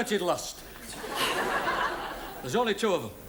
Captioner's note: audience laughs